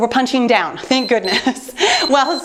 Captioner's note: timer beeps